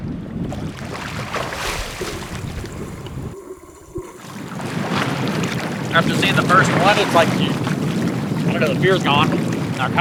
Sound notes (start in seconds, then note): 0.8 water splashing